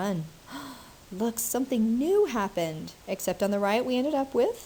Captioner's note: gasps